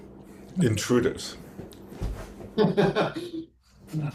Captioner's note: laughs